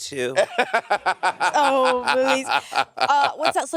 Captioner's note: Monét laughing